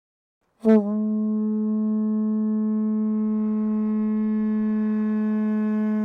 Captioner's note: horn blows